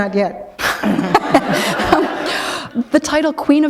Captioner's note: laughter